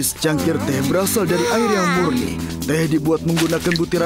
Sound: Wilk yawns

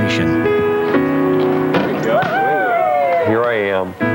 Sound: cheering

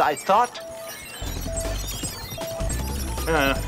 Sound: beeping

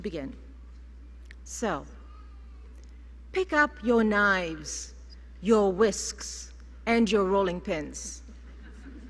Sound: laughter

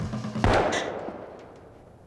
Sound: gunshot

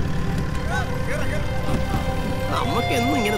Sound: car Sound

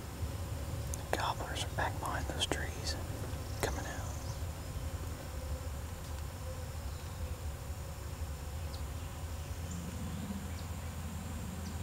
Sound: whispering

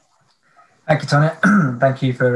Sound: clears throat

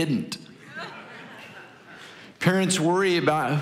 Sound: congregation laughing

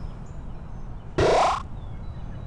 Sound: teleporting noise

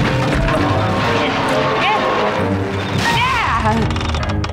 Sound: grunting

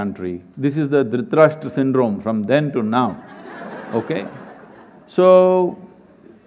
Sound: laughter

